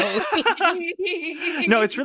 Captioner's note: laughing